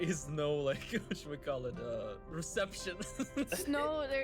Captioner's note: laughs